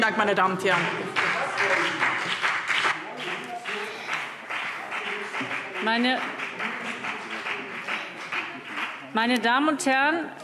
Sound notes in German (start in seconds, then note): 0.6 Beifall BÜNDNIS 90/DIE GRÜNEN - Zurufe